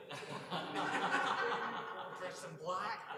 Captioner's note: laughter